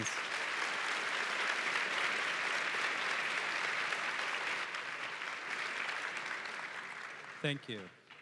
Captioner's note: applause